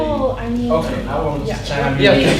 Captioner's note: voiceover